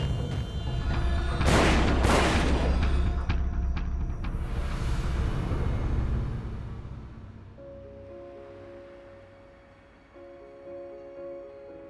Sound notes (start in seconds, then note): 1.4 two gunshots